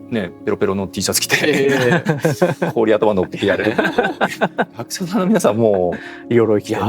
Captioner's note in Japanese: 笑い